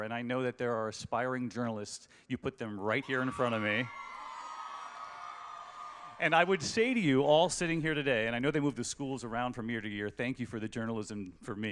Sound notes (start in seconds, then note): 2.9 cheering